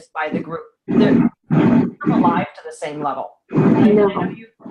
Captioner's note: audio dropping